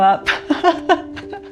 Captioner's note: laughs